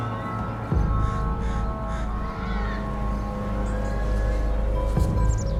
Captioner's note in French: Enfants jouant à distance